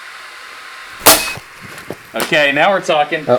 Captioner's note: bat fires